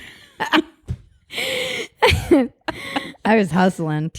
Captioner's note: both laugh